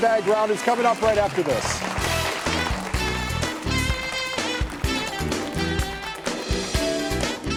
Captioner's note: audience applauding; upbeat music